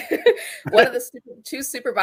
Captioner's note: laughter